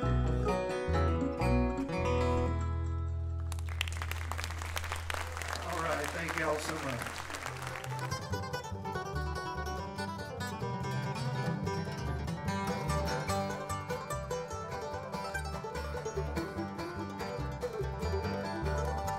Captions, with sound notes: (audience clapping) All right, thank you all so much.